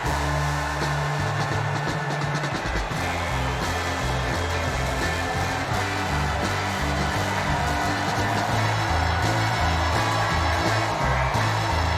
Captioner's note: cheers and applause